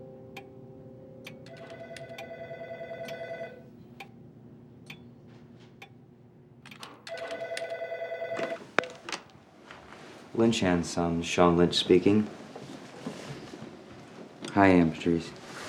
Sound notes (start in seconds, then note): 2.6 telephone ringing